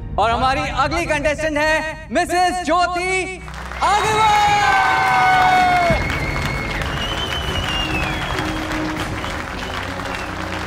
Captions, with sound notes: And our next contestant is - Mrs. Jyoti Agarwal! - [audience clapping and cheering] [audience clapping and cheering]